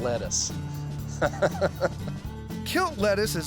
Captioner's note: chuckles